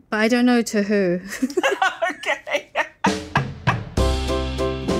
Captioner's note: both laugh